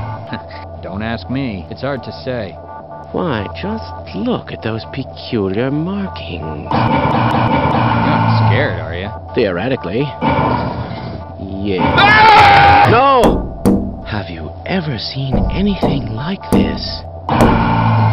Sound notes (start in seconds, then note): 13.2 thunkthunk; 16.2 thunkthunkthunk